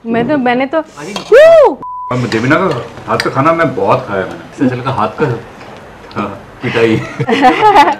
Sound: giggles

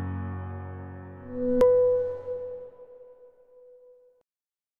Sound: electronic ping

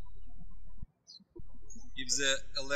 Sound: birds chirping

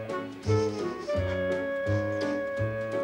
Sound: sniffs

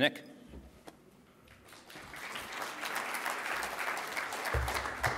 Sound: applause

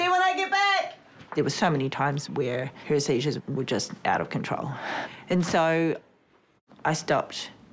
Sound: sighs

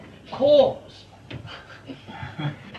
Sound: laughter

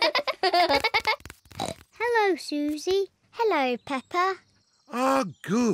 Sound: both giggle; snorts

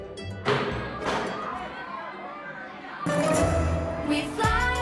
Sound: kids chatting

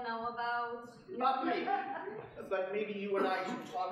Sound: audience laughing

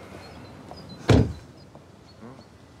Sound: door clicks shut

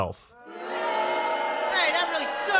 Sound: crowd booing

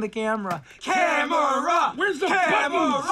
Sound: chanting

